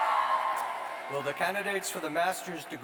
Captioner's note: cheers